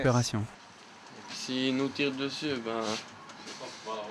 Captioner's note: French spoken audio